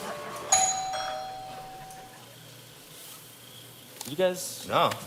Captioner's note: doorbell chimes